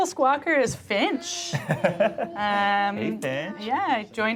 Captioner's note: laughs